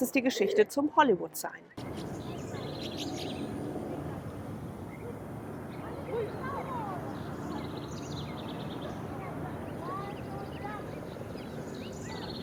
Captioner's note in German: Vogelgezwitscher